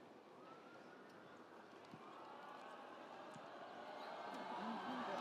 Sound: audience cheering

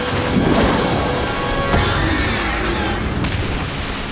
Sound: screeching

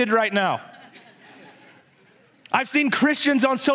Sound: congregation laughs

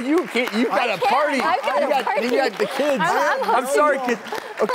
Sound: audience claps

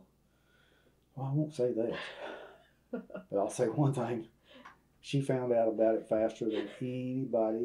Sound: laughs

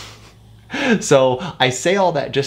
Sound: chuckles

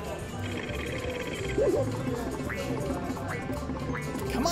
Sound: wheel spins

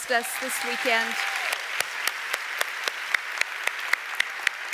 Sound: audience applauds

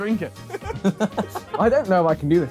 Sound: laughing

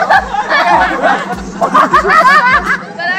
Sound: laughter

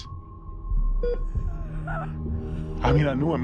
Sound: Jenny gives a horrified gasp

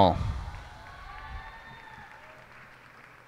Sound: cheers and applause

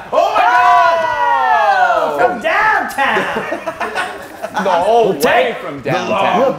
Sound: laugh

